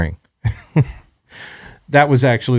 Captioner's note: laughs